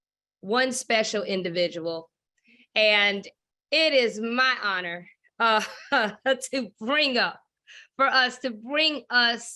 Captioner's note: laughs